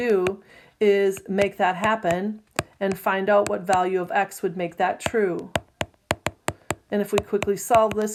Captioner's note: tapping sound